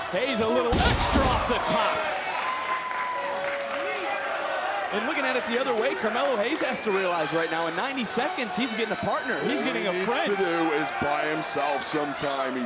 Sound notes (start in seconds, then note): 2.9 crowd cheering